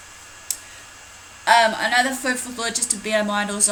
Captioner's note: click of tongue